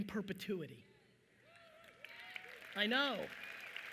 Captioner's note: audience cheering and applauding